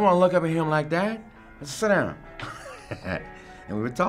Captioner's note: laughing